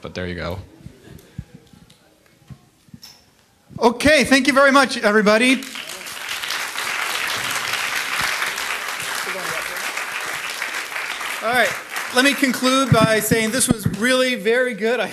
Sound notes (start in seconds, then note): 4.0 voiceover; 5.3 audience applauding